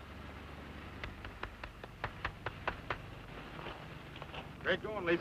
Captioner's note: Flat Top clapping